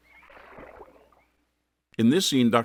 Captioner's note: water splash